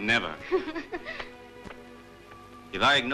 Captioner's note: laughing